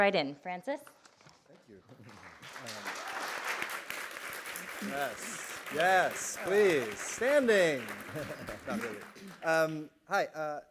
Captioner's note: applause